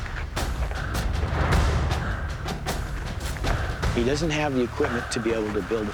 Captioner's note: panting heavily